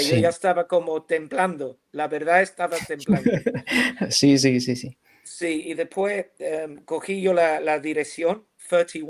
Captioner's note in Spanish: risas